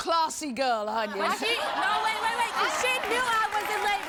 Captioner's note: audience cheers